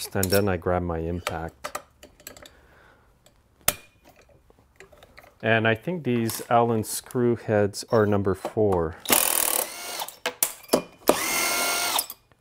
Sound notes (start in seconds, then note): 3.7 metal clanks; 9.1 driver tool roaring